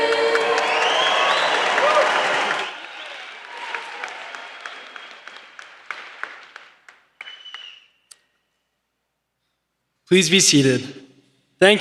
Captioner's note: applause